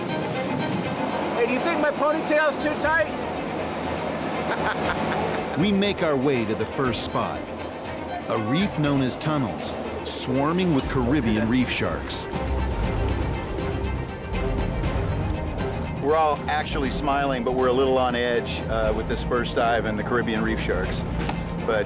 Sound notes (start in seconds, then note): 4.4 laughing